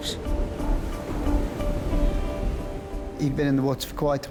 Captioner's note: soft intense music; waves crashing